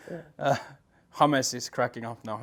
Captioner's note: chuckles